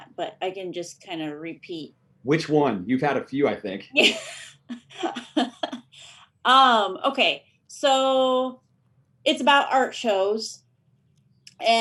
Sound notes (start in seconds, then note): 3.9 laughs